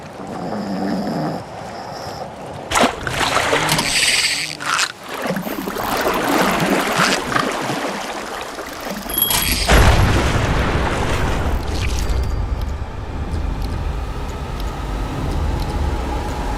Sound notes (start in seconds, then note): 5.0 more splashing; 9.0 bell rings; 12.0 tone and ticking